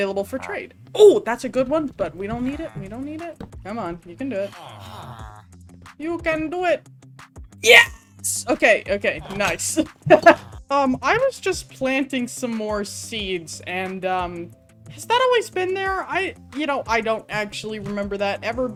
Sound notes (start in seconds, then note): 5.8 in funny accent